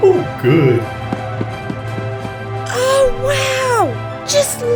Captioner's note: footsteps rushing forward